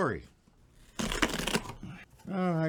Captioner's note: paper crinkling